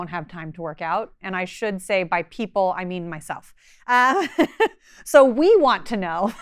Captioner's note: laughing